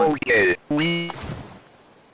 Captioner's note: splash